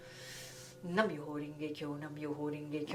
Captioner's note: chants faster